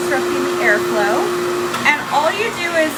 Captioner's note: hair dryer whirs continues